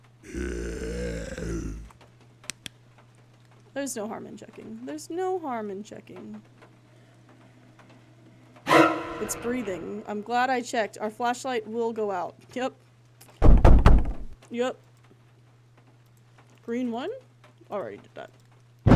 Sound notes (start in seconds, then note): 0.0 guttural Noises; 2.5 flashlight Clicks On; 6.9 more Huffing; 8.7 suspense Noise; 13.4 three Loud Bangs; 18.7 thunder